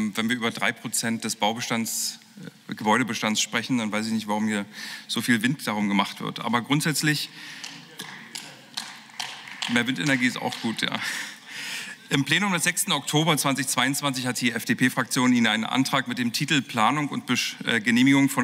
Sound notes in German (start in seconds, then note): 8.0 Beifall